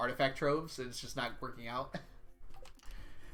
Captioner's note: chuckles